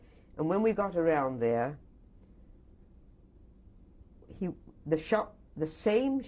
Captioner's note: pauses for 3 seconds